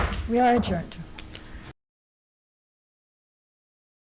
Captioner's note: hits gavel